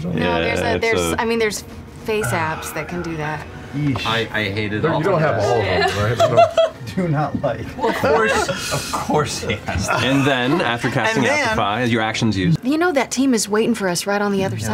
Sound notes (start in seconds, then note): 5.6 laughter; 7.8 laughing